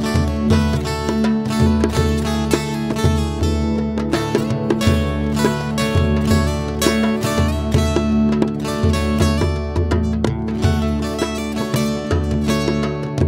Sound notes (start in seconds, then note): none